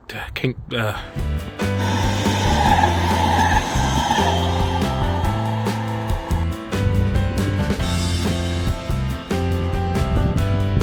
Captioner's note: stammering